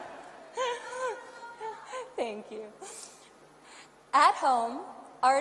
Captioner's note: audience yells; laughter